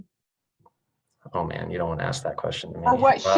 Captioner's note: laughs